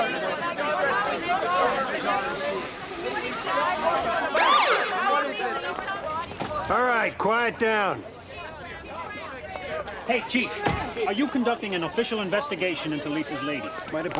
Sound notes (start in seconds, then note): 4.2 siren wailing